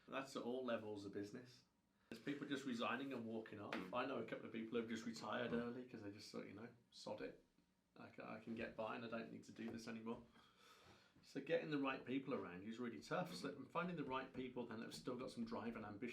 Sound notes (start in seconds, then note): none